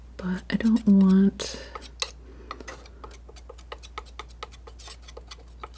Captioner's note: scratching